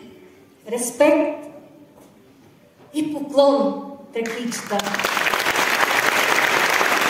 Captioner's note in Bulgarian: аплодисменти